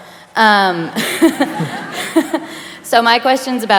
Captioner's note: laughter